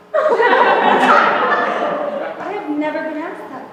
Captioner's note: laughter